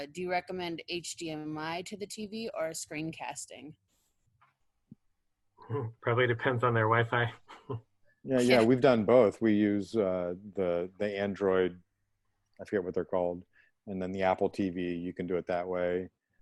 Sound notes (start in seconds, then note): 7.4 laughter